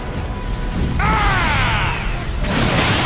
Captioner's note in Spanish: Grita